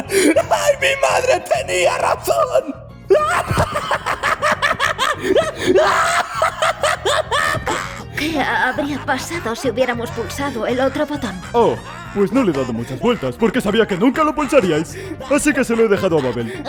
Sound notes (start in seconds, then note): 3.1 laughing hysterically